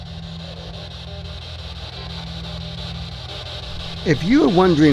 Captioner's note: electronic static hissing